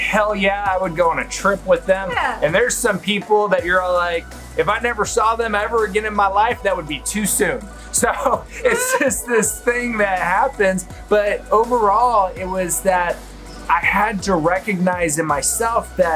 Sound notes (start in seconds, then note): 8.0 laughs